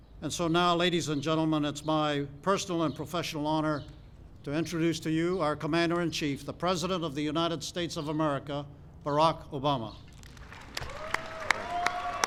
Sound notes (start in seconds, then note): 10.1 applause